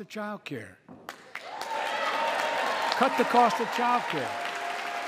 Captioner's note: applause